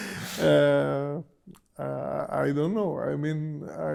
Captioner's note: laughs